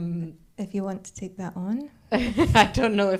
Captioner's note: laughs